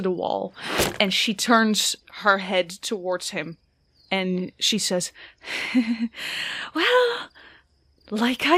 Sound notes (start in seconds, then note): 0.7 sharp thunk and twang of an arrow; 5.5 chuckles